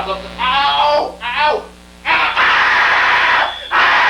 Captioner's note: screaming